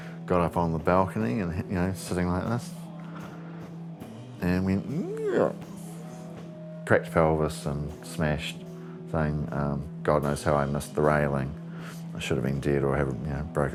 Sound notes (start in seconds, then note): 4.9 falling sound